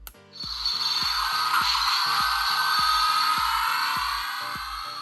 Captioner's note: lock generating sound effect